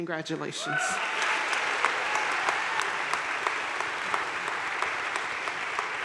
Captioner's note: audience cheering and applauding